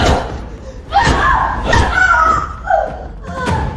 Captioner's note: screaming